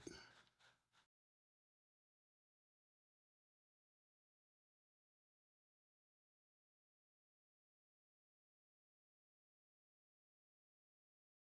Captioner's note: silence